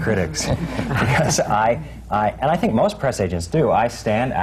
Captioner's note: laughter